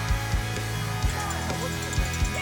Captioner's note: cheering